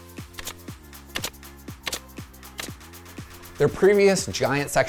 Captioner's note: nail gun buzzing